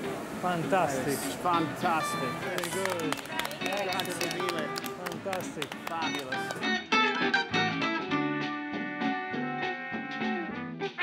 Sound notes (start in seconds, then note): 2.4 applause; 7.4 old timey jazz music